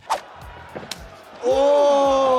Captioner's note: foot thwacks